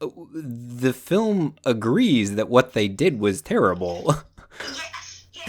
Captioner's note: laughs